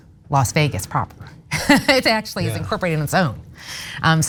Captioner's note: laugh